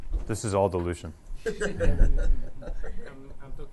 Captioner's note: laughter